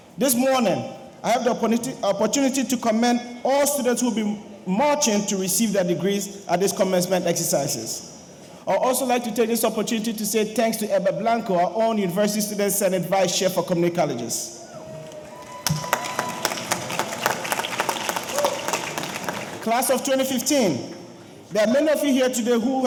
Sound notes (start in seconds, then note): 14.7 audience cheering; 14.9 audience applauding